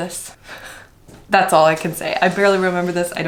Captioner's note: none